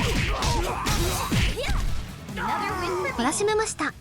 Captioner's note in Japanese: うめき声; 叫び声